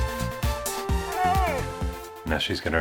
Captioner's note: sniffs and Whines